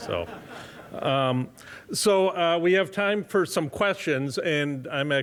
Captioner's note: laughter